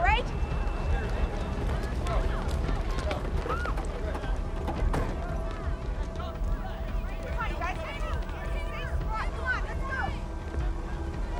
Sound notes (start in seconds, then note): 1.5 thunder crashing